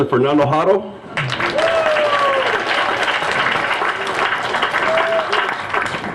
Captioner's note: applause